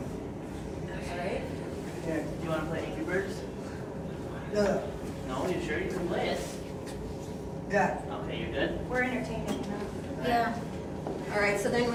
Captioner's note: background Chatter